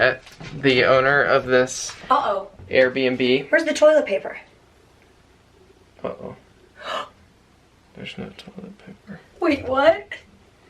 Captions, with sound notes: The owner of this Airbnb... Where's the toilet paper? Uh oh. [gasps] There's no toilet paper. Wait, what?